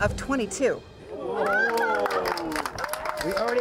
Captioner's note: group cheers and applauds